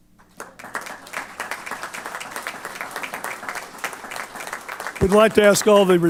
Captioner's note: applause